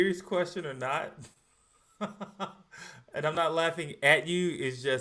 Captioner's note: laughs